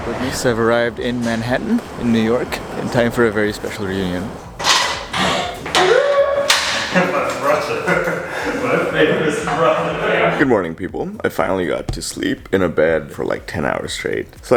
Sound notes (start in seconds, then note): 5.0 excited noise; 9.9 laughs